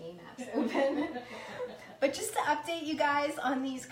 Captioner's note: laughing